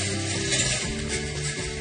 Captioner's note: metal clangs